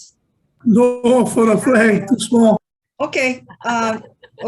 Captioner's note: chuckles; laughing